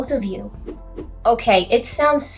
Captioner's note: swish swish